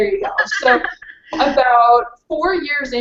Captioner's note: laughs